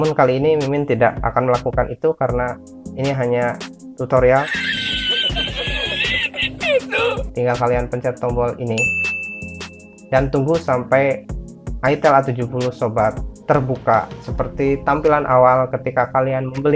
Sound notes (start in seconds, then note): 4.4 laugh